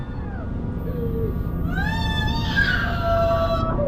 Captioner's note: tense music; muffled crying